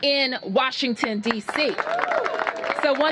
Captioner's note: cheers and applause